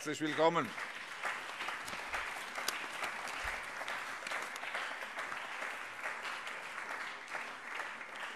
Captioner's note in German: Allgemeiner Beifall